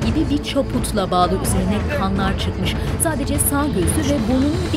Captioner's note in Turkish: Kalabalığın sesleri